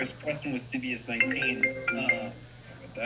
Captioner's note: phone ringing